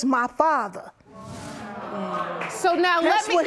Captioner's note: audience exclaiming